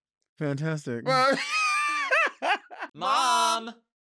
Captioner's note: laughing